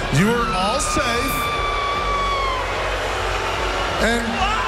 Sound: crowd booing

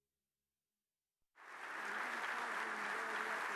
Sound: applause

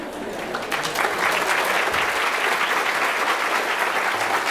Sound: audience applause

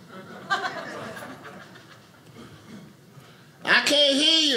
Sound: audience laughing

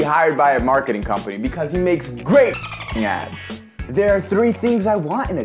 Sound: dolphin sounds

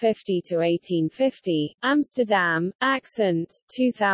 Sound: in German

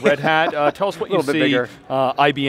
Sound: laughs

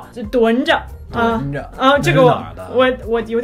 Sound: imitating dialect

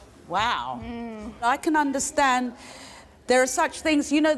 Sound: none

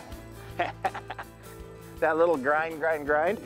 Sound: laughter

